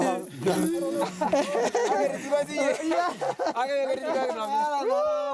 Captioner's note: laughter